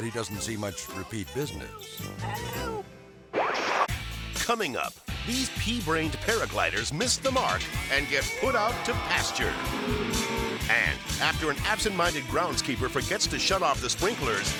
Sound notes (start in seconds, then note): 3.7 screen static; 3.9 rock music; 8.2 cows mooing